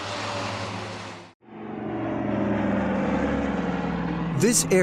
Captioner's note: jet engine roaring; calm upbeat music